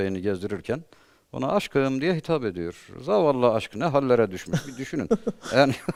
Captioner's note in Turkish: kahkaha